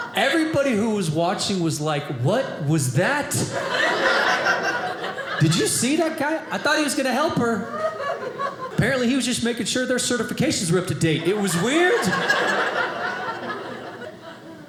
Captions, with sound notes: Everybody who was watching was like, what was that? Did you see that guy? I thought he was going to help her. Apparently he was just making sure their certifications were up to date, it was weird. (audience laughing)